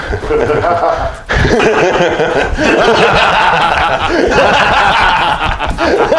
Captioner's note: evil laugh